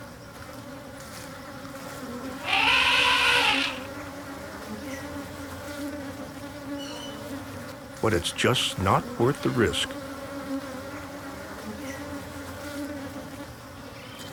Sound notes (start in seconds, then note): 2.4 elephant trumpets; 10.1 buzzing